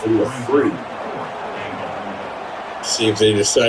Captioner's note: crowd Noises